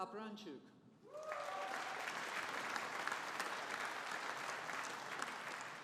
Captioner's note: audience applauding